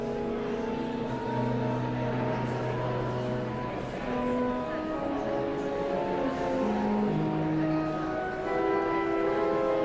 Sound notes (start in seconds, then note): 0.0 somber organ music continues; 4.4 audience chattering continues